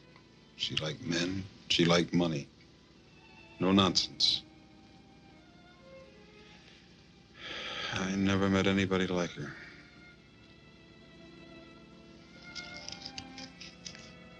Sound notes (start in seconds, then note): 7.4 sighs